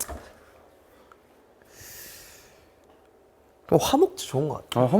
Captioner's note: silence